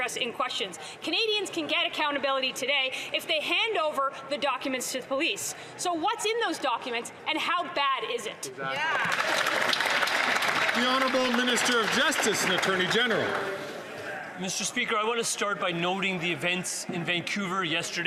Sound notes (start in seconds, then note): 13.9 some Applause